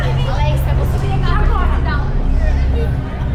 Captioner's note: excited conversation